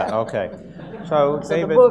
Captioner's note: audience laughs